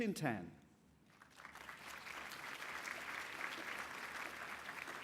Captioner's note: applause